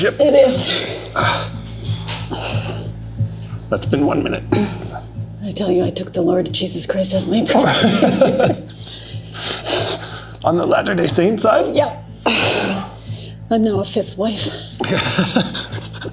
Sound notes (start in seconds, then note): 7.5 laughter